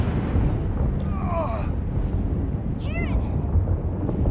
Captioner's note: groans